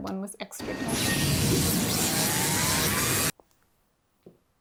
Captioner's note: electric zapping